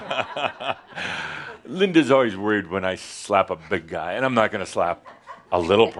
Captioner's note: chuckles